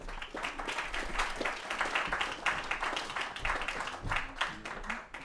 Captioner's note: applause